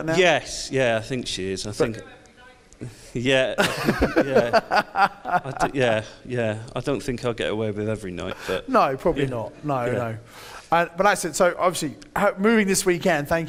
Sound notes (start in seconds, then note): 3.6 laughs; 10.1 audience laughs